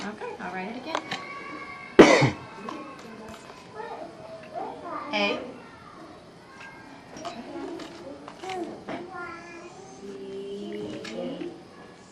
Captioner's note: child vocalizes